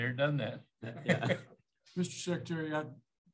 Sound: laughter

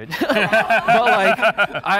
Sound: group laughing

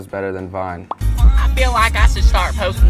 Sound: pop

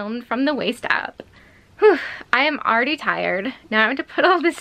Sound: sharp exhale

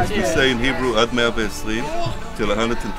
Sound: speaks in Hebrew

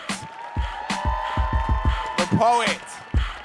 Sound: audience cheering

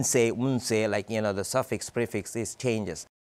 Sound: speaks Yiddish

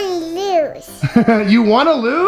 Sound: laughs

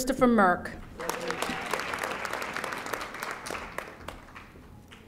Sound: audience applauding

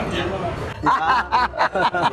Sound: laugh

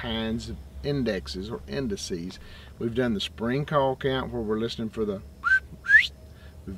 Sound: whistles

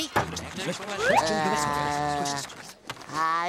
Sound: moaning

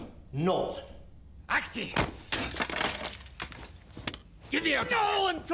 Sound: shouts in russian

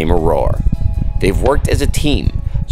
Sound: horse hooves thumping

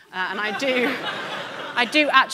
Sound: audience laughing

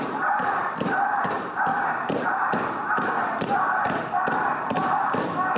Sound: muffled, distant chanting

